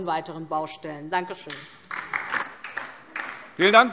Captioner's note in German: Beifall DIE LINKE